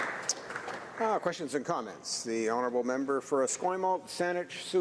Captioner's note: applause